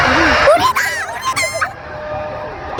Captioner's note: tears